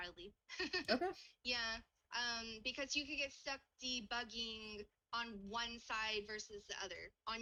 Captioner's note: laughs